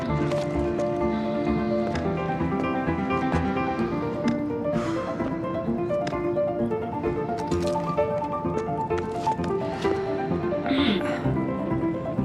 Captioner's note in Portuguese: limpando a garganta